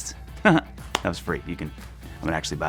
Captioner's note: chuckling